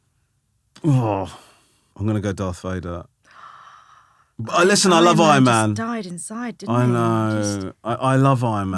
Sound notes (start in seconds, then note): 3.3 gasping